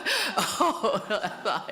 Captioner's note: laughs